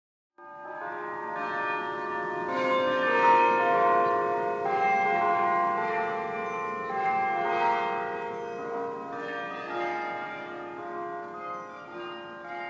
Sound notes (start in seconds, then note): 0.5 ringing bells